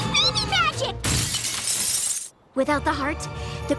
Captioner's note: shattering glass